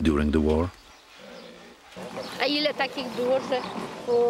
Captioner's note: speaking Polish